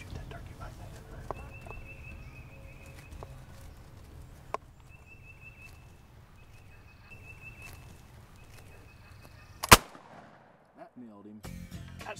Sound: whispering

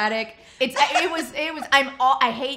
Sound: laughs

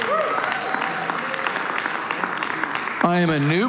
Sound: congregation cheering and applauding

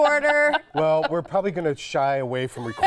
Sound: laughter

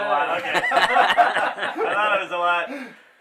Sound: group laughing

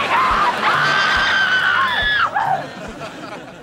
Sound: screaming

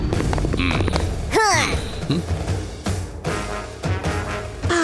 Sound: grunting

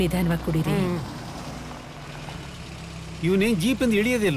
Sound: car Sound

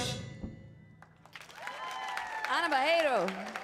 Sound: audience cheers

